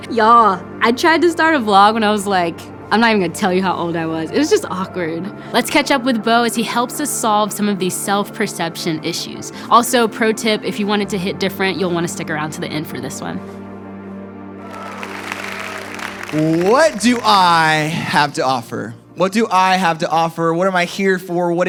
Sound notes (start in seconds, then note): 14.6 audience applauds